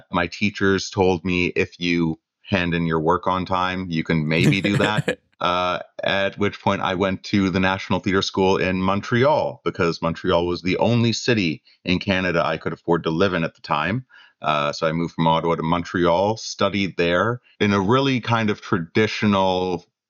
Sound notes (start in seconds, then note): 4.4 laughter